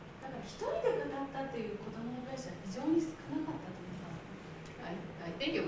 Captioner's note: speaking Japanes